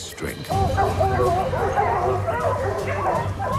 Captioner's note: barking